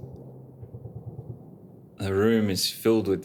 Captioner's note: faint machine gun firing